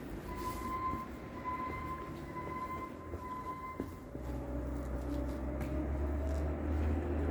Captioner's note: small excavator noises aside